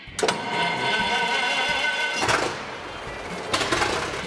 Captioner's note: engine turning over